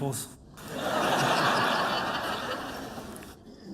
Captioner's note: laughter